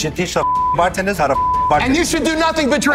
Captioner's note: beeps